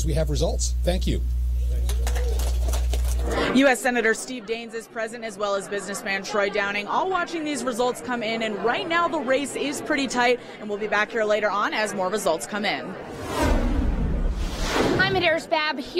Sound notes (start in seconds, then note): 3.5 applause